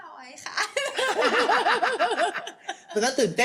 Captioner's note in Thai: เสียงหัวเราะ